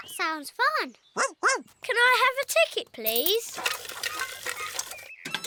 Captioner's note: barks